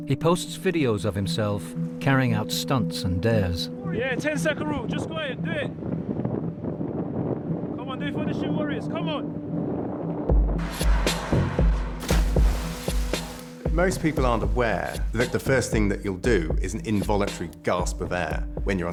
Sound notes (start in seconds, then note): 9.2 tense music; 12.1 water splashes